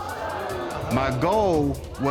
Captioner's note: audience exclaiming